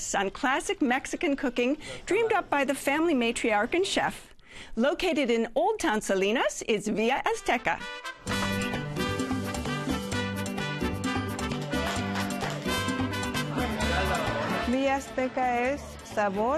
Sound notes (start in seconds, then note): 11.2 patrons cheering; 14.6 speaking Spanish